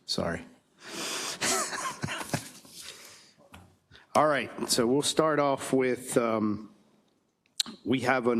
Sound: laugh

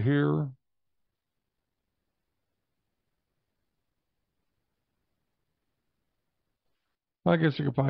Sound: silence

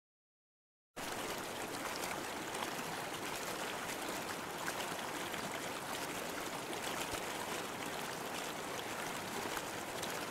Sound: sound of river

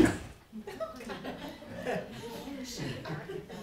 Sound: laughter

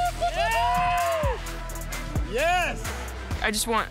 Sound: cheering

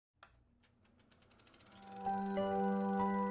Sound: film reel clicking; light airy music

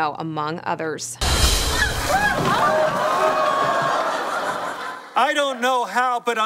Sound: audience laughs

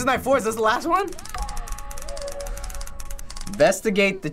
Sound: words clacking on screen

